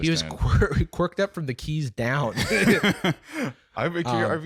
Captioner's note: both laughing